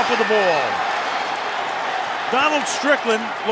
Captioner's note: crowd clamoring